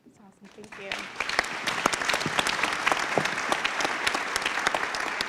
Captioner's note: applause